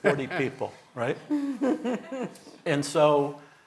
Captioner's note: audience laughing